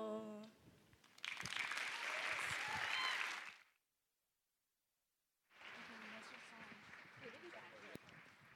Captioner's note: applause